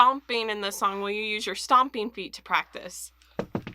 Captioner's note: stomping